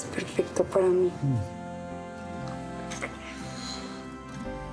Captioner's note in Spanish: Celular vibra